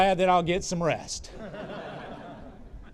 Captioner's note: laughter